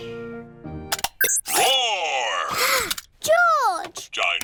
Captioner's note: gasps